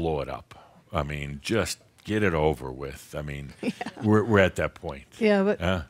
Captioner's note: she chuckles